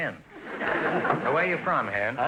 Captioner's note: audience laughter